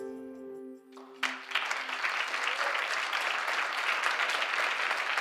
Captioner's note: applause